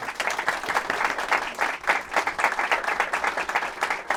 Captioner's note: applause